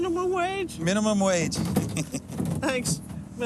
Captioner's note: chuckles